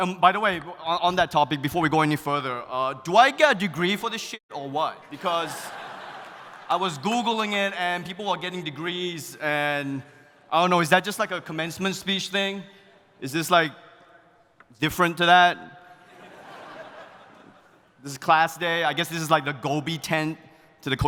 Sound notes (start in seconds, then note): 16.0 audience laughing